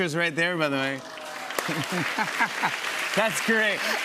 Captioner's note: applause